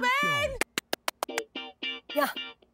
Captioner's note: clapping